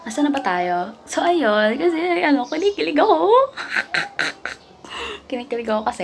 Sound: weird laugh

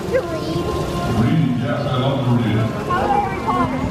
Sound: fountain

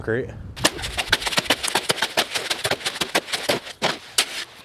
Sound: shovel rattling

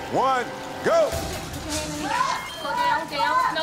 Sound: audience shouting

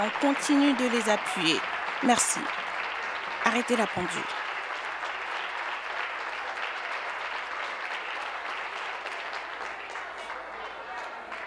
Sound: applause

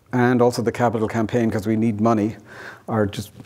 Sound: none

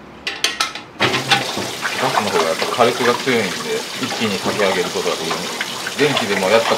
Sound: kettle

